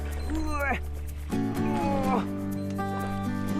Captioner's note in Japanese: 魚が水をたたく音